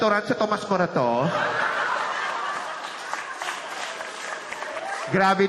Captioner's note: laughter, applause